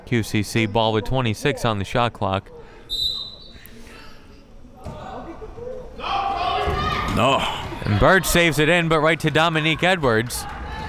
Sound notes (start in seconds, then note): 2.9 whistle tweeting; 5.9 crowd members shouting